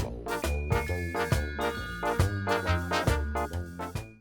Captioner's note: ska music; bells ringing